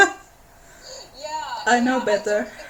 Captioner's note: laughter